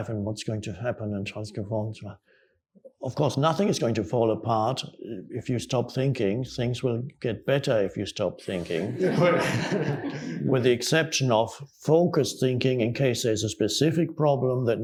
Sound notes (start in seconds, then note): 8.6 audience laughing